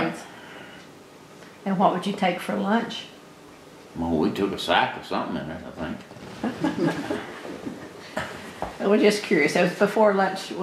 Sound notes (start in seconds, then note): 6.4 laughter